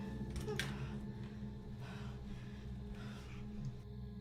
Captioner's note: clattering